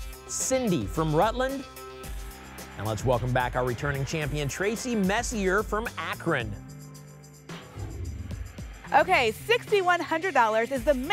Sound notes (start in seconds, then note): 7.5 whoosh